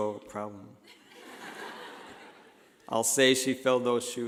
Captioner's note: laughing